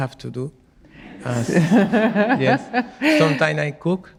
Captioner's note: audience laughing